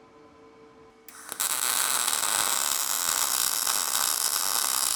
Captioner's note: metal sizzling